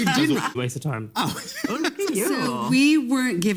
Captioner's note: laughs